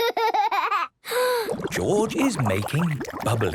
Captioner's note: inhales deeply, water bubbling